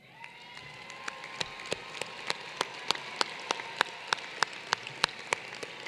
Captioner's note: applause